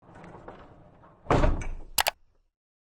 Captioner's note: click